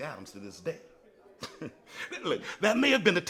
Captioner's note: chuckles